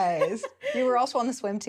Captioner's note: laughs